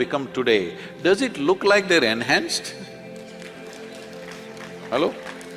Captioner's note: laughter/Applause